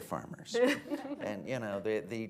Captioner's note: laughter